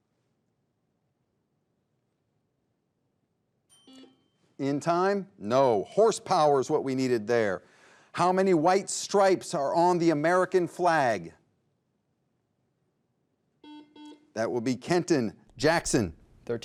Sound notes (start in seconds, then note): 3.7 timer dings; 3.8 buzzer beeps